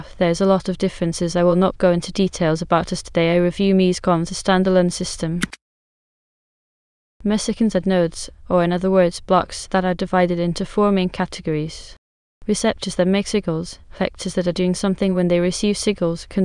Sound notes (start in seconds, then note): 5.4 click